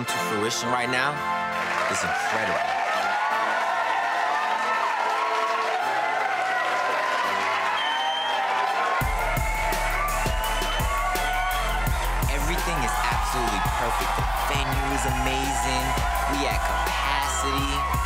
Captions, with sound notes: to fruition right now is incredible. (attendees cheering) (steady tempo drumbeat) Everything is absolutely perfect. The venue is amazing, we at capacity.